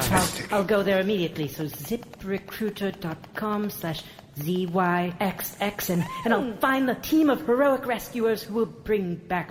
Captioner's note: typing